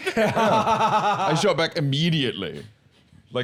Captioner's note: laughs